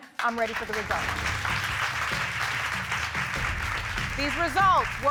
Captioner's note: audience applauding